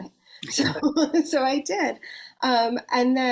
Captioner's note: laughs